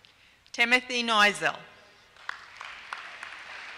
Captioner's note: applause